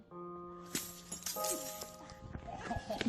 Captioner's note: glass breaking; laughter